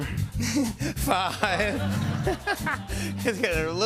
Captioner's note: laughter